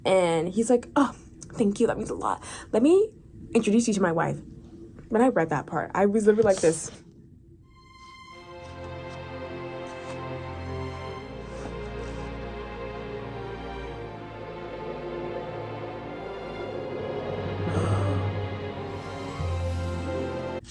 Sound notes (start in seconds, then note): 17.3 gasp